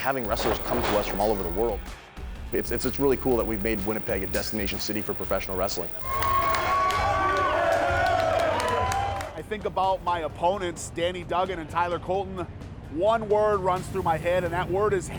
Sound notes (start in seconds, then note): 6.1 crowd cheering